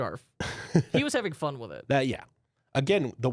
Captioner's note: softly chuckles